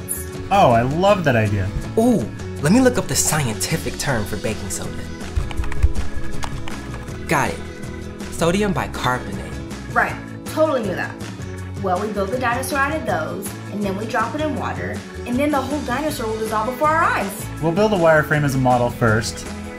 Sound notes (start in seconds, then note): 4.8 clicking